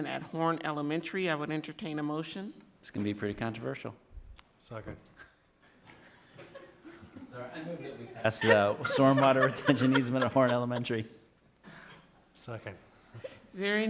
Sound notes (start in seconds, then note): 6.0 all laughing